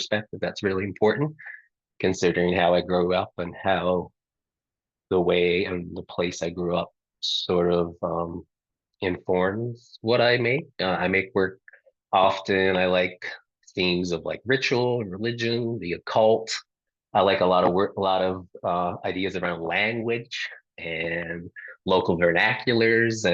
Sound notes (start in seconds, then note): none